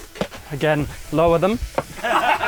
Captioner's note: all laugh